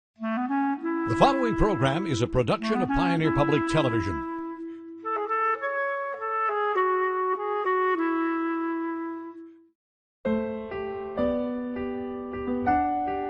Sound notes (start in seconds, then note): 2.2 voiceover; 9.9 clarinet music